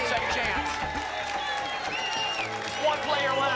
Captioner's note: applause and cheering